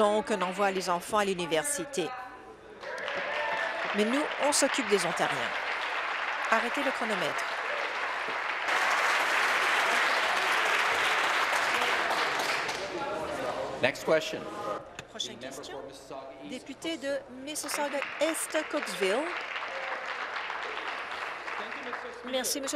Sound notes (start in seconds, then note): 8.2 applause; 22.5 applause